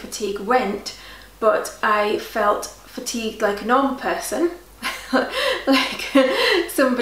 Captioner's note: laughs